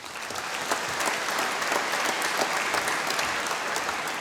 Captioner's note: applause